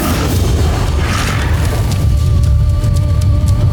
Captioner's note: guttural roar; energy whoosh-crackle; theme music playing